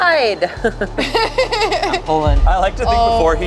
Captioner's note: laughs